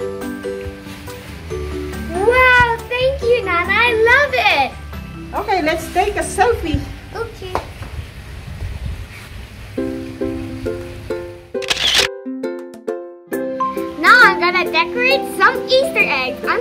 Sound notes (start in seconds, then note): 11.6 camera shutters